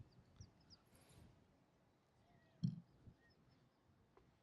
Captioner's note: pause in speech